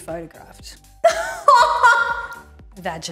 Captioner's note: laughing